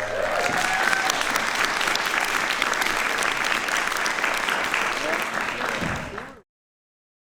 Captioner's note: applause